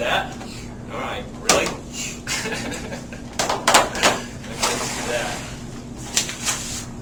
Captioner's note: laughs